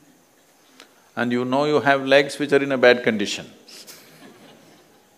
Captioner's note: few Laugh